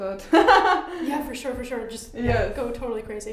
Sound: laughs

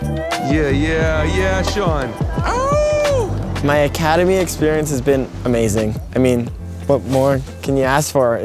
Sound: ooowww!

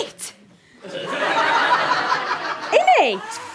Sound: audience laughter

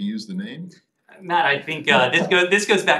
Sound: laughter

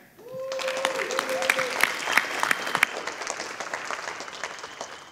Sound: audience applauding

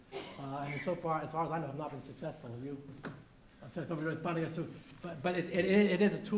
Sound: murmurs

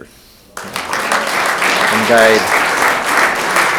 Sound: room applauds

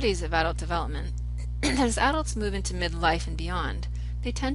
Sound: coughs

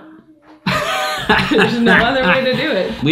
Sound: laughing

